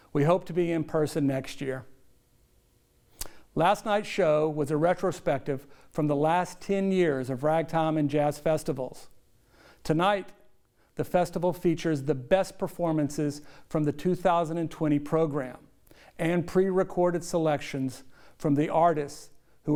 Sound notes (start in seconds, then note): none